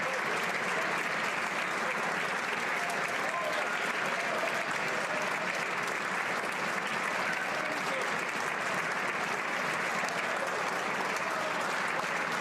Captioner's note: applause